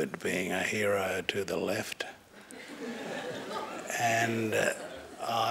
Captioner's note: laughter